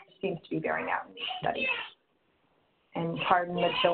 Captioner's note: children chattering